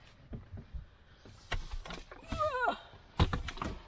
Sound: groans

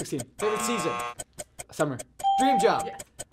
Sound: buzzer; ding

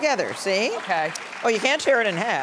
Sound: audience clapping

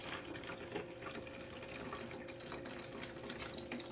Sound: water pours

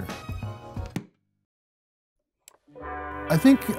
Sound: click

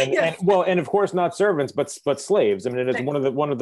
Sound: laughter

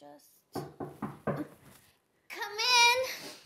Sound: knocking

